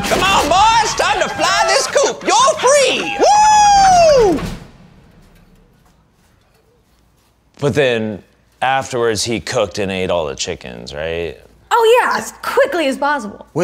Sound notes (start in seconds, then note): 3.4 cheers; 4.2 chicken clucking